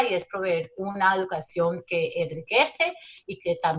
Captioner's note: speaking Spanish